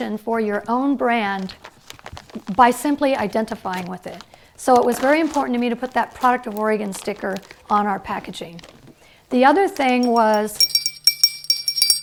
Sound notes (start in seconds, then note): 10.0 bells ringing